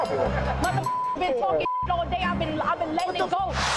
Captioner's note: beep